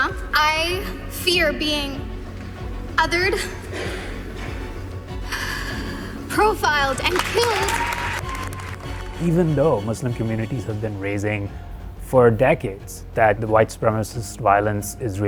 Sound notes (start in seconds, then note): 3.6 heavy breathing; 7.0 cheering